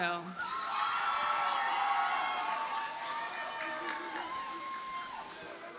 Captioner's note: audience cheers and applauds